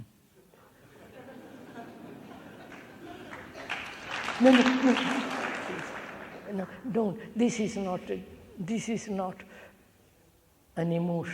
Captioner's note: laughter; clapping